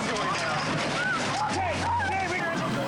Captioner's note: people screaming